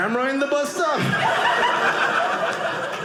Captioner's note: audience laughing